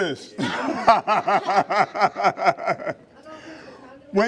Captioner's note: laughing